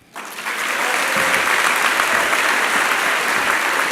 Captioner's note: applause